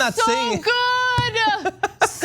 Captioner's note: laugh